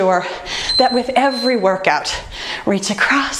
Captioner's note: timer beeping